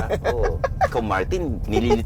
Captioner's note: laughs